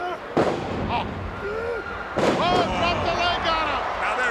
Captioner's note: ground slamming